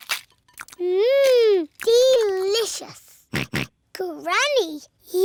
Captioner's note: george oinks